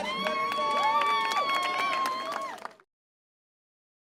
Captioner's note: guests cheer